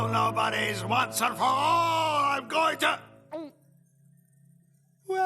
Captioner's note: gulps